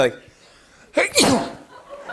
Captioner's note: sneezes